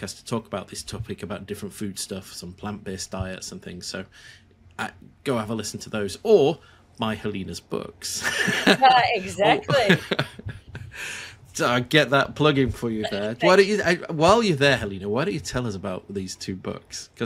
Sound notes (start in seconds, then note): 8.2 laughs